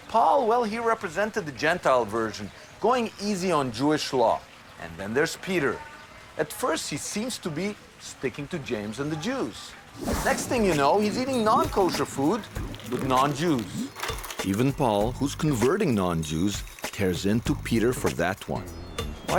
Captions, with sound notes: Paul, well, he represented the Gentile version going easy on Jewish law, and then there's Peter. At first he seems to be sticking to James and the Jews. (whooshing) Next thing you know (upbeat music) he's eating non-kosher food, with non-Jews. Even Paul who's converting non-Jews, tears into Peter for that one.